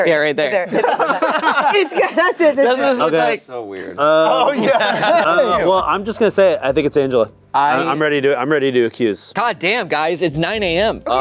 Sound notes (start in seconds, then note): 0.7 laughing